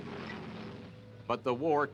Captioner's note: tank engines growls